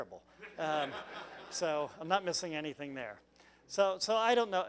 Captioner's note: laugh